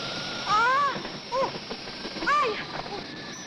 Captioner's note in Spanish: esterina urla